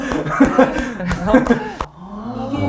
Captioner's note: claps